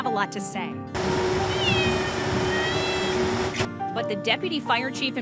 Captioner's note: Oddball meows